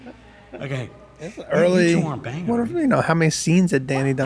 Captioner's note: laughs